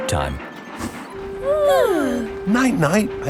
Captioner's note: both yawning